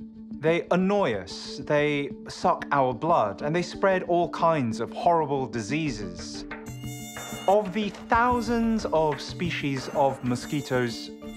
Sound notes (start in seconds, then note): 6.6 mosquito buzzing